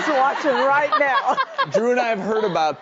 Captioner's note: laughing